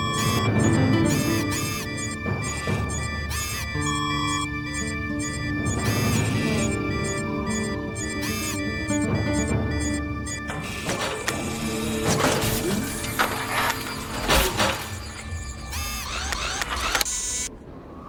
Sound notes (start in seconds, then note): 0.1 alarm tones; 3.3 lens focuses and whirs; 6.4 alarm tones; 6.4 lens focuses and whirs; 10.2 mechanical whir and clang; 15.8 robot whirs and buzzes